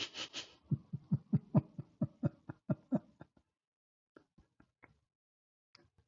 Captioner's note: Ketawa